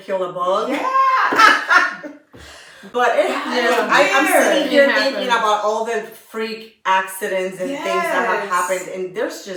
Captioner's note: laughter